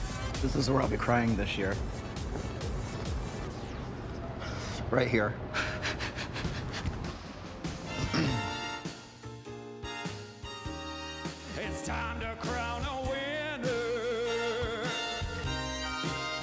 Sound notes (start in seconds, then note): 5.5 laughs; 7.9 clears throat